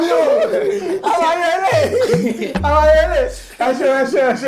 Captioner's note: everyone laughs